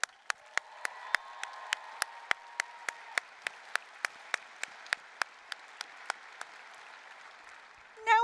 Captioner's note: applause, cheering